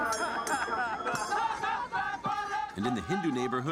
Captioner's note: chanting in Bengali